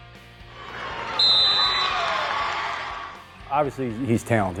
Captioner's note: crowd cheers; whistle blaring